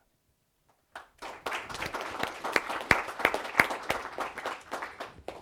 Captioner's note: applause